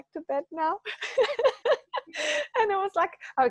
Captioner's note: laughing